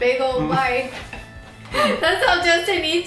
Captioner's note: laughs